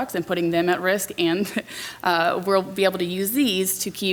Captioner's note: laughs